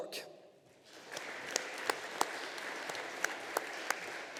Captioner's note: audience applauding